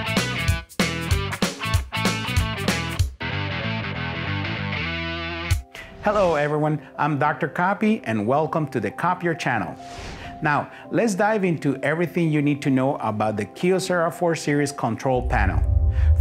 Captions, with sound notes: Hello everyone. (calm music) I'm Dr. Copy and welcome to the Copier Channel. (transition whooshing) Now let's dive into everything you need to know about the Kyocera 4 series control panel.